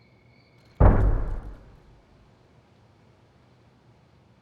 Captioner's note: gun fires